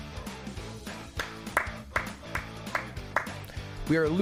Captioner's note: Ludwig clapping